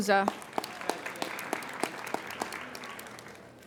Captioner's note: applauding